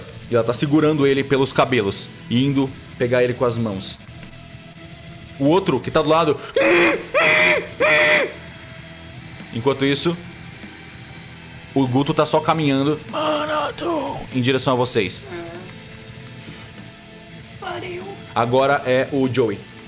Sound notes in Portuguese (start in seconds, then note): 6.4 gritando abafado